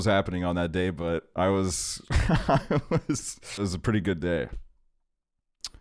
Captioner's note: laughs